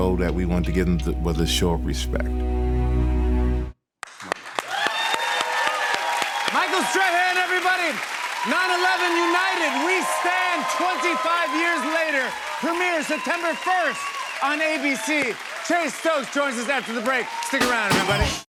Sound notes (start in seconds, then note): 3.9 cheers and applause